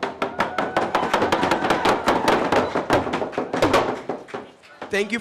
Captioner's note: cheers and applause